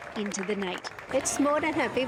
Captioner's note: applause